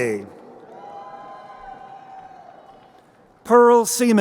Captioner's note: crowd cheering